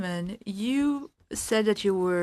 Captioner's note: speaking in French